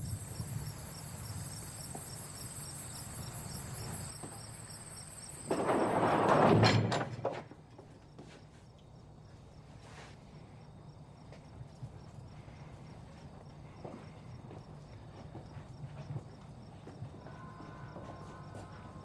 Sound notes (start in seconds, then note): 6.3 door slams shut